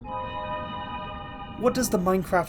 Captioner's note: Minecraft cave sound